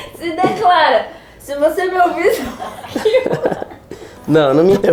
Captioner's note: laughing